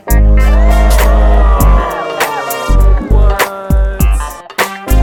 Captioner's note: cheering and clapping